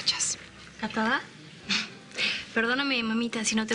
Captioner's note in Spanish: Ríe